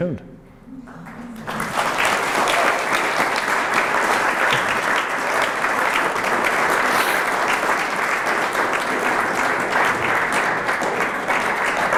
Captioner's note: audience claps loudly and camera pans out to show Dr. Erlandson at podium